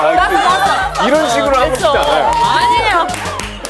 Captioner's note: ugh!